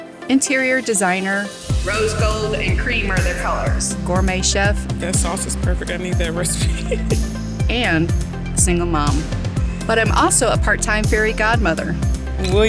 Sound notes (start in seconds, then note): 6.2 laughs